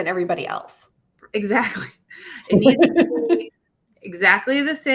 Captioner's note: laughs